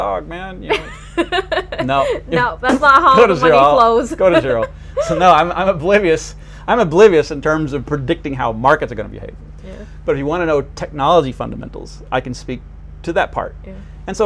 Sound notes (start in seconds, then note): 0.7 laughing